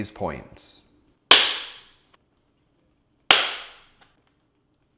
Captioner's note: parts snapping